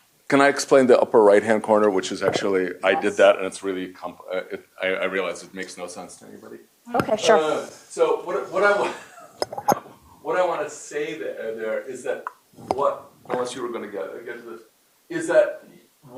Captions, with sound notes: Can I explain the upper right hand corner, which is actually-- i did that, and I realize, it makes no sense to anybody. OK, sure. So [LAUGHS] what I want to say there is that-- unless you were going to get to this-- is that,